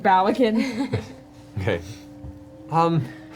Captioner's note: laughs